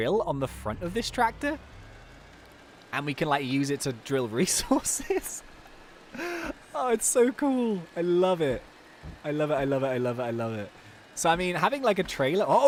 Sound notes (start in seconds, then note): 2.0 engine roaring; 6.1 laughs